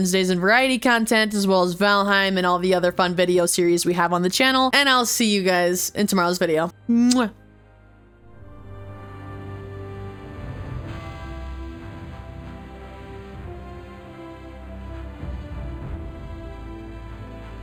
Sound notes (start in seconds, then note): 13.0 kiss